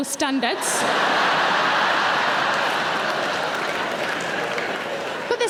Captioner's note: audience laughing